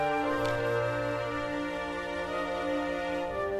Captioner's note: pensive orchestral music; scroll rustles